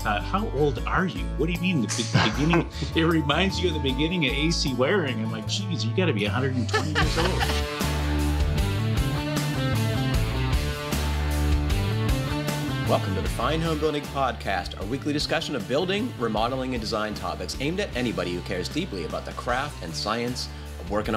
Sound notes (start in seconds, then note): 6.4 laughs